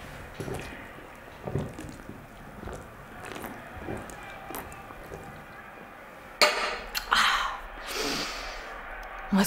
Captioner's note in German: trinkt geräuschvoll